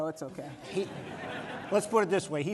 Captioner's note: laughter